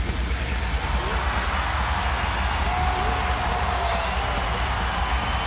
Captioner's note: crowd cheers and whistles